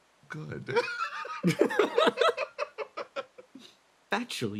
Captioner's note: laughs